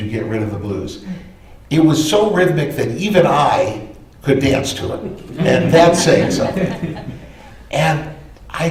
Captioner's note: laughter